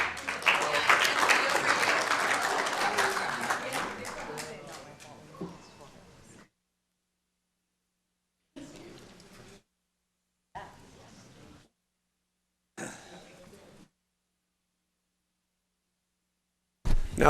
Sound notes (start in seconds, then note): 3.6 applause